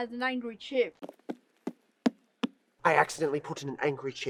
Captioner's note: footsteps approaching